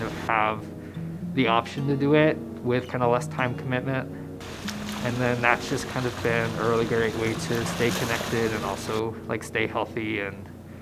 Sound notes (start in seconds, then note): 4.4 water splashing